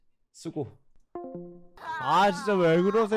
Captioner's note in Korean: 통화나감